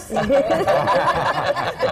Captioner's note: laughter